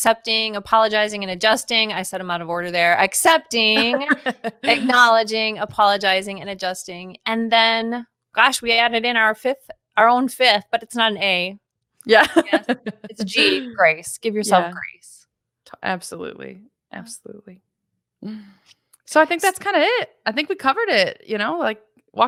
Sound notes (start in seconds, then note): 12.4 laughs